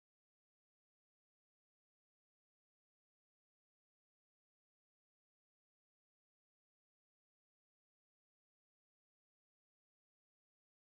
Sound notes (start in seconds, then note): none